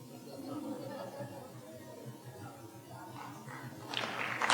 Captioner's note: audience members talking and laughing off microphone; audience applauding